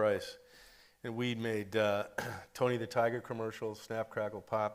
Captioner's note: clears throat